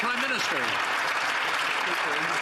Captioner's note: some Applause